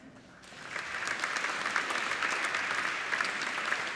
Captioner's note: applauding